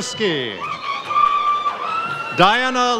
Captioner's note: audience cheers